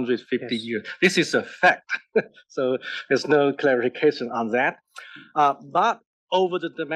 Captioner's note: laugh